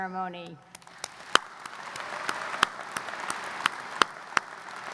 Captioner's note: audience applauds